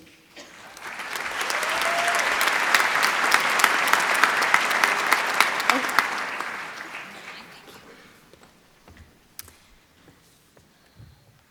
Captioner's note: applause